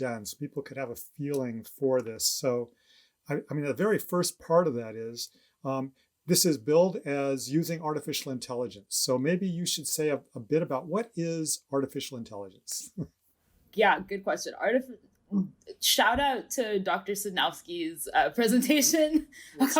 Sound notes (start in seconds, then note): 12.8 chuckles